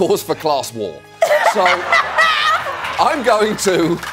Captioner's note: laughing